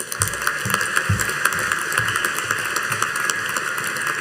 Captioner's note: audience applauding